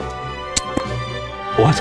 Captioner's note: presses hands together for noise